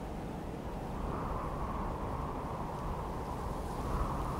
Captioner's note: wind howling